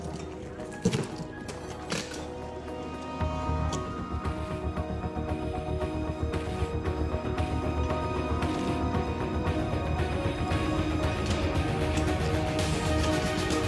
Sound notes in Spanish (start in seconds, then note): 3.0 Ruido al abrir